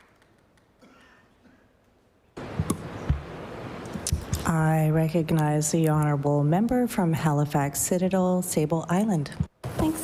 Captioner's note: applause